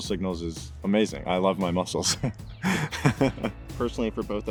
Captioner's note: laughs